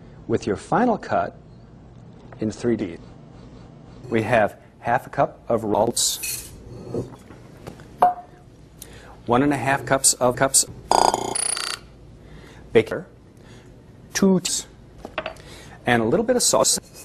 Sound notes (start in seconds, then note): 10.9 glitchy utensil stuttering